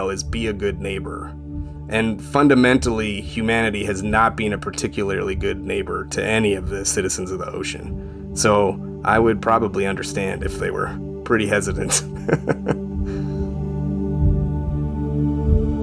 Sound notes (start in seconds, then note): 1.3 soft music; 11.8 chuckling; 13.1 soft music